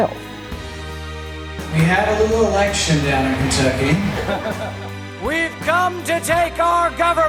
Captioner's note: cheers